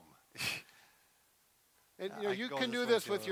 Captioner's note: snickers